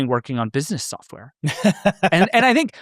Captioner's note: laughs